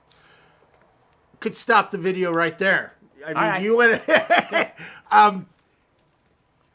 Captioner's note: laughing